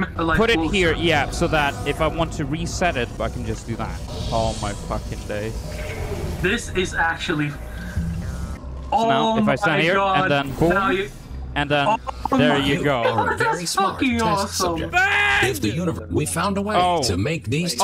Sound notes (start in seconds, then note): 14.9 screaming